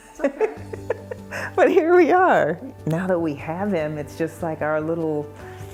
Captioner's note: laughter